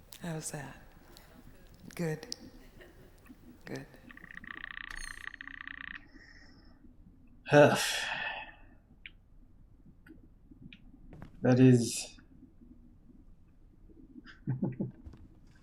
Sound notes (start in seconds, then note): 7.8 sighing; 14.3 chuckles